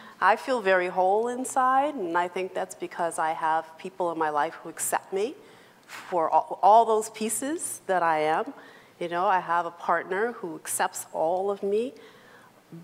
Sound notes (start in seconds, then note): none